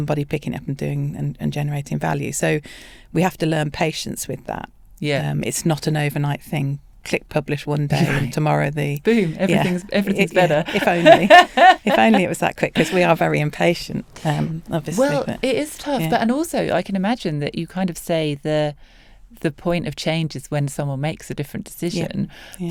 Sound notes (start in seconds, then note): 9.1 laughs